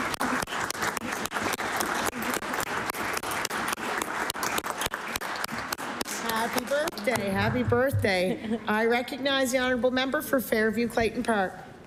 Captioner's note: applause